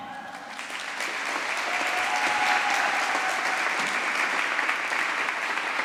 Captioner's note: applause